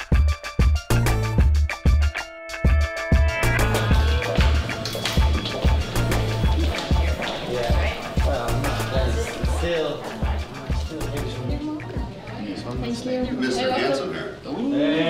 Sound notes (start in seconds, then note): 6.8 indistinct chatter